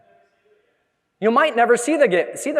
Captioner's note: audience member speaking softly